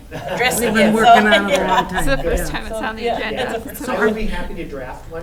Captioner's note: laughs